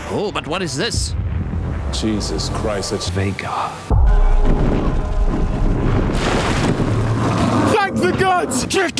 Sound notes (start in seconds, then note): 6.9 roaring